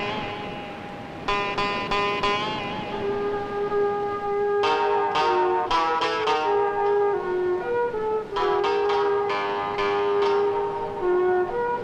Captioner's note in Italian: campana